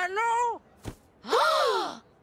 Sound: gasping

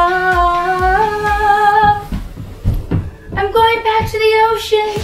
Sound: humming

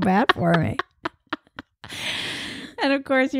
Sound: laughing

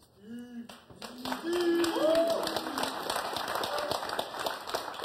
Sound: audience applauding

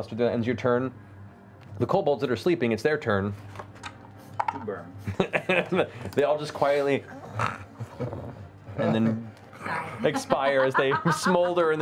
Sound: laughs

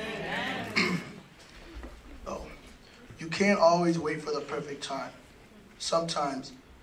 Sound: cough

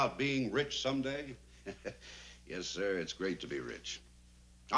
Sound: chuckles

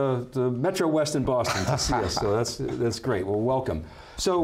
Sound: laughs

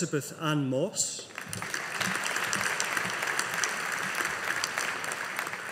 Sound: audience applauding

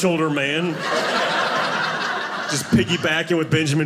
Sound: audience laughing

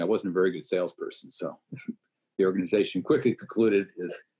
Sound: laughs

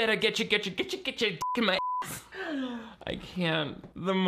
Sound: beep

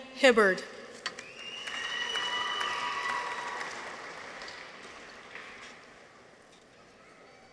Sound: people whistle; audience applauds

